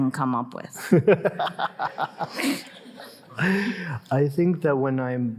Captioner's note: Jeremy laughing